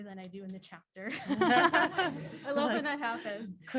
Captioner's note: laughs